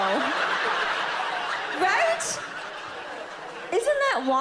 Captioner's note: audience laughs